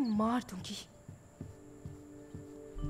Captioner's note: Footsteps approaching